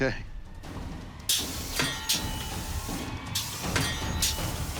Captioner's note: clanging